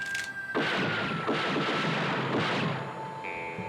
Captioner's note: gunfire